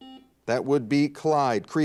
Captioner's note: buzzer dings